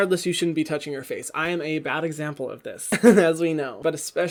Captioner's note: chuckles